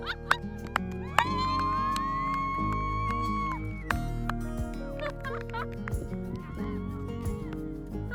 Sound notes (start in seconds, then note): 1.6 cheering and whooping